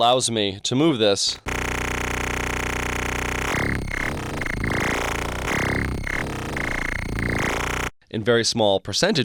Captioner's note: electronic sounds